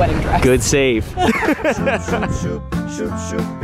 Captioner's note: laughs